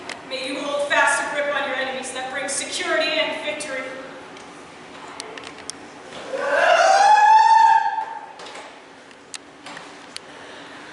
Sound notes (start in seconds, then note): 6.2 CHORUS cry out